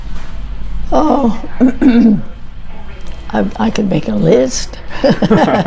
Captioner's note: clears throat; both laugh